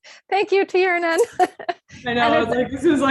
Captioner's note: chuckles